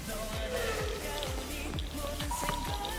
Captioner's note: sprinting